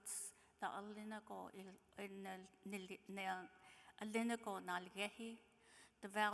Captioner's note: speaking in foreign language